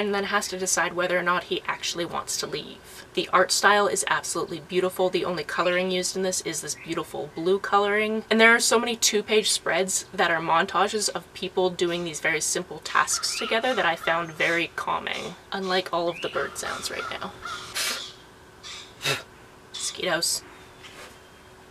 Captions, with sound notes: then has to decide whether or not he actually wants to leave. The art style is absolutely beautiful. The only colouring used in this is this beautiful blue colouring, and there are so many two page that are montages of people doing these very simple tasks together that I found very calming - unlike all of the bird sounds right now. [blowing away a mosquito] Mosquitoes!